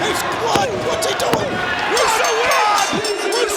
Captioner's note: bell rings